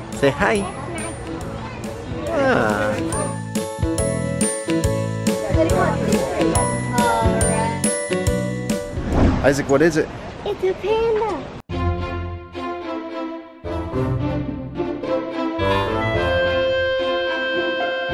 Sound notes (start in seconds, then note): 3.5 playful instrumental music; 5.1 people chattering; 11.8 magical instrumental music